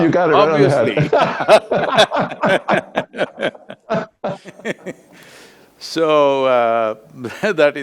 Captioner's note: both laugh